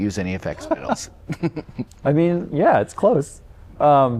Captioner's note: laughter